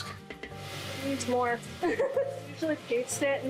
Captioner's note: chuckling